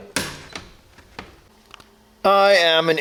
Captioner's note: snap